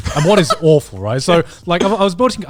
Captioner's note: laughs